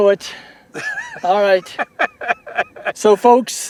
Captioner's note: laughter